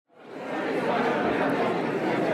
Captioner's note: crowd Noise